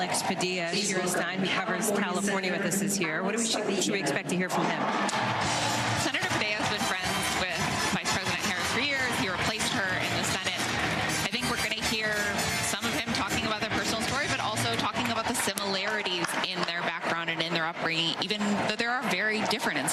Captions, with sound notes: AMERICA, WITH KAMALA HARRIS AS OUR PRESIDENT, OUR BEST DAYS ARE AHEAD. [ APPLAUSE ] >> NECK SPEAKER SET JUST TAKE THE STAGES CALIFORNIA SENATOR ALEX PADILLA.